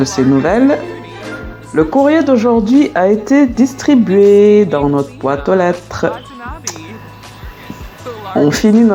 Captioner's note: notification